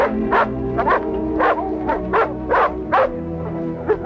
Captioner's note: barking